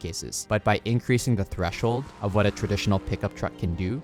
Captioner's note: vehicle revving